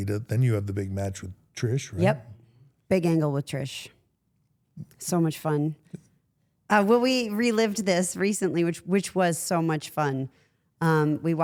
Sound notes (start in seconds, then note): none